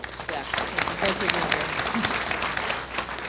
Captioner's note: applause